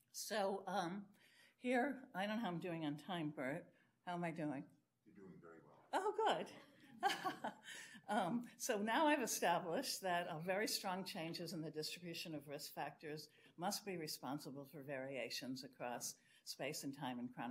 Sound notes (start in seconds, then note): 7.0 laughs; 7.0 audience laughs